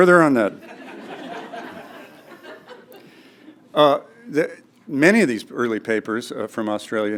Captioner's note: laugh